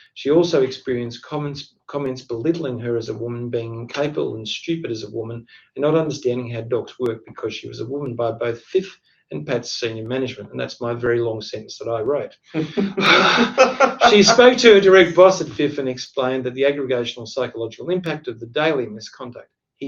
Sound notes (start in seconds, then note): 12.5 laughs